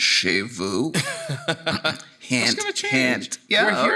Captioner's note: laughing